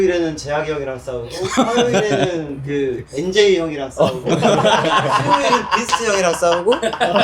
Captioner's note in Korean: 웃음